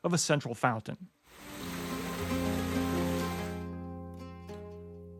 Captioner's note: running water